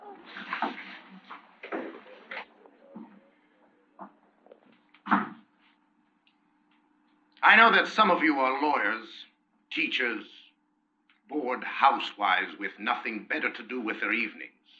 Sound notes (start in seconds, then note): 2.7 people quiet down